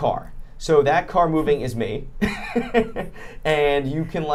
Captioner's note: laughs